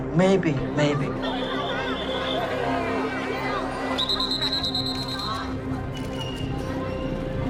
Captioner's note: whistling